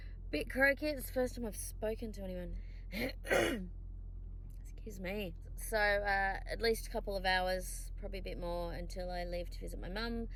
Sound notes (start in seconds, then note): 3.2 clears throat again